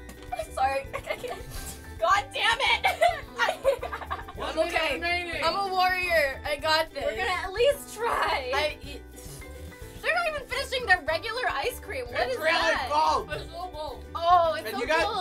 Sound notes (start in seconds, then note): 0.0 gagging; 9.0 spluttering; 13.9 mockingly